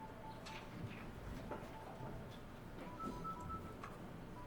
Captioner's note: phone ringing